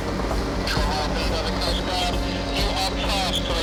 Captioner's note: dramatic music; radio